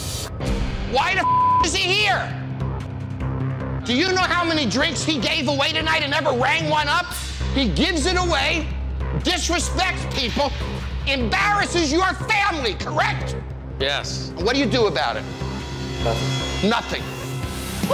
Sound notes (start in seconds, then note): 1.2 beeping